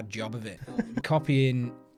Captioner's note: laughs